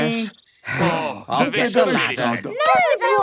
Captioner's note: sigh